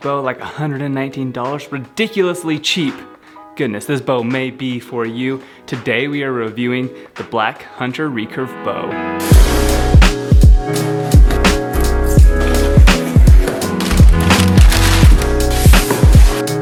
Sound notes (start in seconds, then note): 8.2 relaxed hip-hop music; 12.3 package rustling